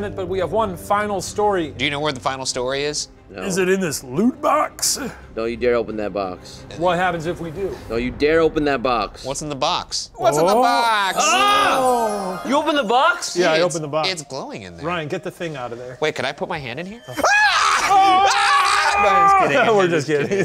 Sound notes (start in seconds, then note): 10.4 screams; 17.1 screams